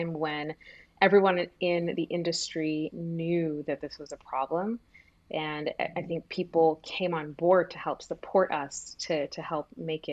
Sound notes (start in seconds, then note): none